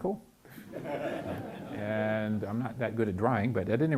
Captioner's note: chuckling